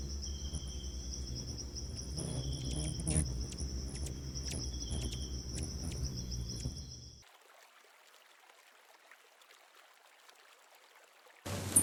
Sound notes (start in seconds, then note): 0.0 bird's wing flapping; 0.0 birds chirping; 4.8 birds singing; 7.9 river flowing